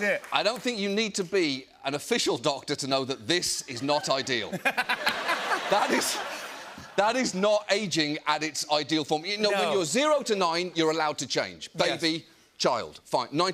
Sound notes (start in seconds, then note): 3.9 laughter